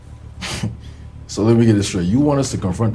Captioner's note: laughing